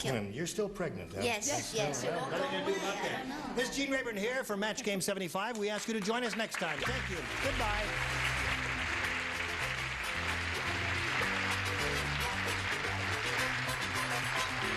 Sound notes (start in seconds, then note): 8.2 theme music playing; 9.6 audience applauding